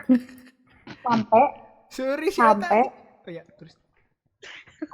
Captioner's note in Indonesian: ketawa